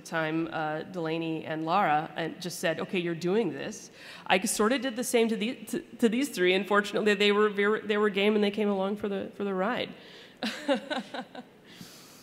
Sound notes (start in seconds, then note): 10.4 laughter